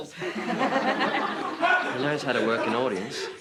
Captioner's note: all laughing